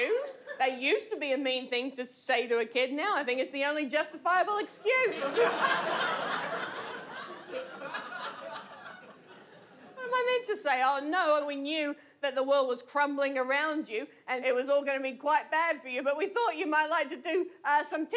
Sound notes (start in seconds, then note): 5.0 audience laughs